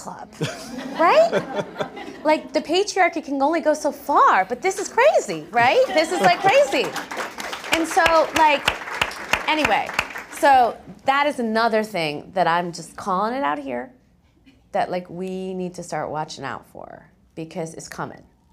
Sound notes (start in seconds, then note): 0.4 laugh; 6.2 applause